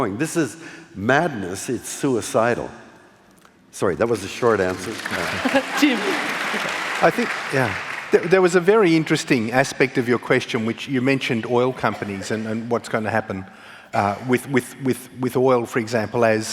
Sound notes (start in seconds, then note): 4.4 applause